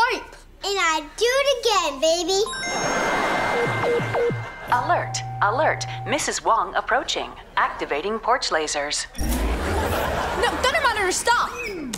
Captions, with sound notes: And I'd do it again, baby. [beeping] Alert. Alert. Mrs. Wong approaching. Activating porch lasers. No, Thunder Mother, stop.